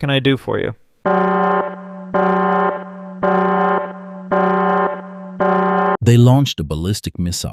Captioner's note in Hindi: बैट-कंप्यूटर अलार्म दे रहा है।